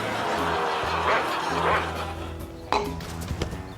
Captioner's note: electronic barking